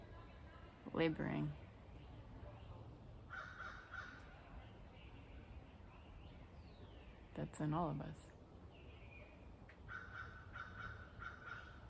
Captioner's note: crow sounds